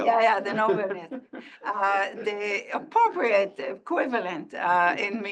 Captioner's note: laugh